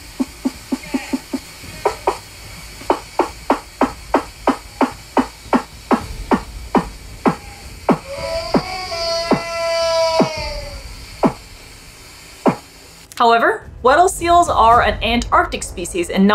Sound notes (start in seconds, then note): 0.0 vocalization gets lower and slower; 2.7 vocalization resembles door being knocked